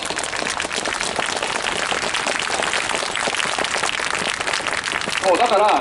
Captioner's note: clapping